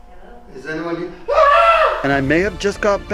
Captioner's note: screaming